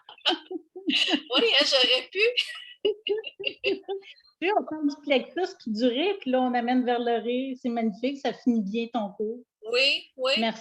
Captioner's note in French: rire